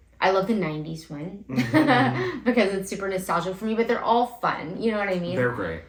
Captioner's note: laugh